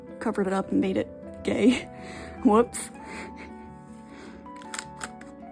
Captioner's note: laughing